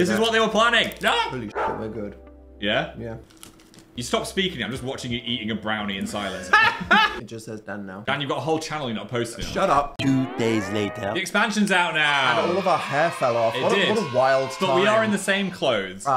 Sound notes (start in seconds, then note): 6.2 laughs; 11.6 kids cheering